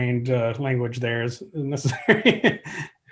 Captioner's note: laughs